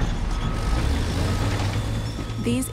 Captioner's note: machinery creaks; machinery revs, beeps